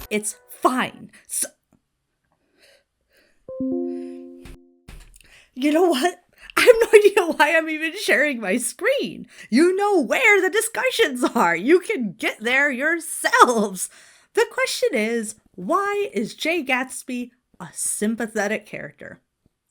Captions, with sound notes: It's fine. (notification dings) You know what? I have no idea why I'm even sharing my screen. You know where the discussions are. You can get there yourselves. The question is, why is Jay Gatsby a sympathetic character?